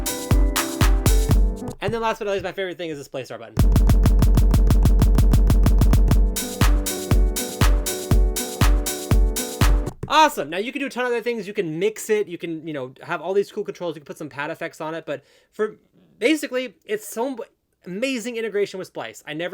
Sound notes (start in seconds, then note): 3.6 MPC sounding; 5.4 piano music